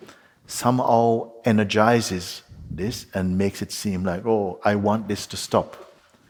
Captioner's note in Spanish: none